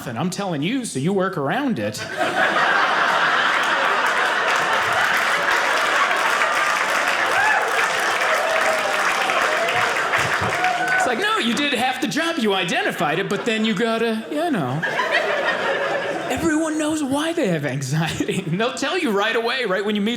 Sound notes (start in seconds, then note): 2.2 audience applauding